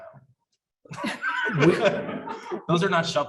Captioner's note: audience laughs